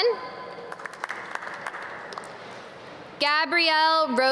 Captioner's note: audience clap